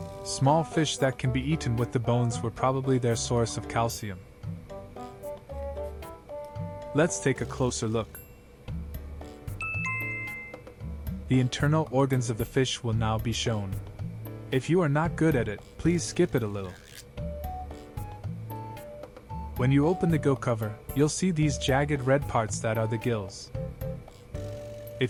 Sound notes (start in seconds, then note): 9.6 chime